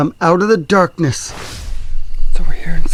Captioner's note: swooshing